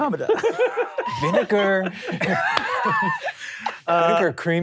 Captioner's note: laughing